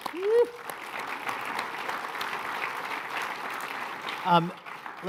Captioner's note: applause